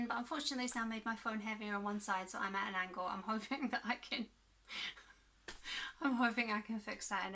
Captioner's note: laughs